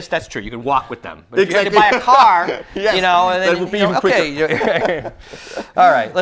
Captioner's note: laughing